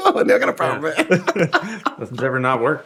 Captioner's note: laughing